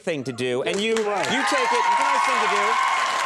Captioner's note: audience applauds